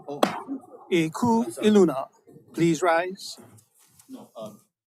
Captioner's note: pounds the gavel twice